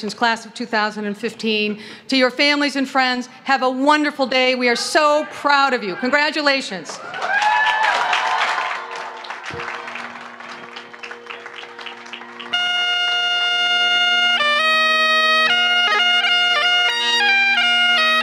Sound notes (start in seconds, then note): 6.9 cheering; 6.9 applause; 13.0 bagpipe music